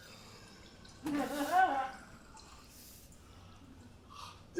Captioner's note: laughs